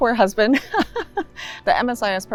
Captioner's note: laughs